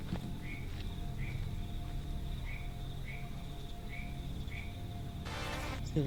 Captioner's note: nocturnal animal sounds; dramatic music